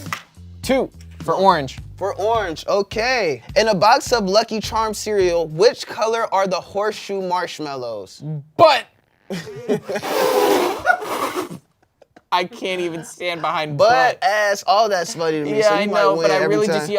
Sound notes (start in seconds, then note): 10.6 everyone laughs